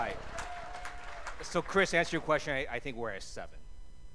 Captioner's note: cheers and applause